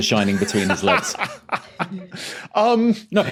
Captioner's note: laughs heartily